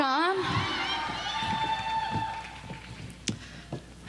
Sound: applause

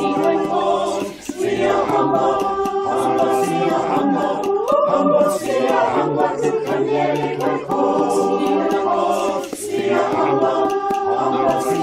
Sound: zulu

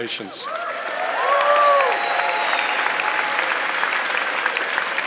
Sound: audience clapping

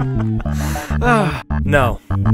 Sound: inhales

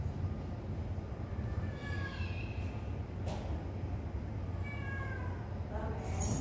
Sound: cat sound

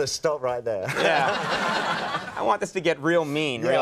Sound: audience laughing

